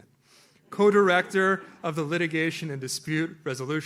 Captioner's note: audience laughs